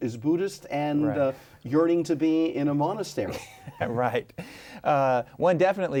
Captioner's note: laughs